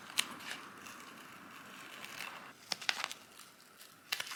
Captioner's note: sticky tape unsticking sounds